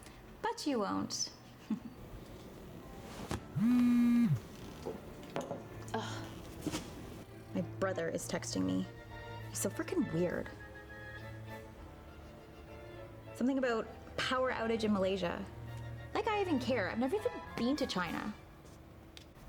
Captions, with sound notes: But you won't! *Regan's Phone Vibrates* Ugh. My brother is texting me. He's so frickin' weird. Something about a power outage in Malaysia? Like I even care. I've never even been to China!